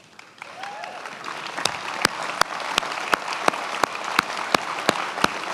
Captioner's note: many applauding